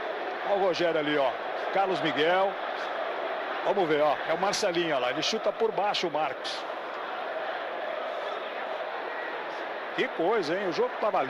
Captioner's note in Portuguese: aplausos